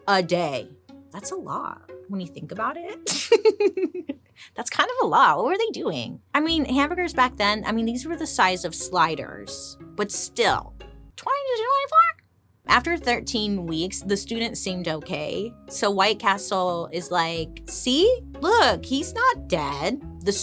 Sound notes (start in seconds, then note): 3.2 laughs